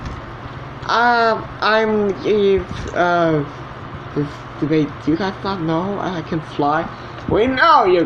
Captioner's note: stammering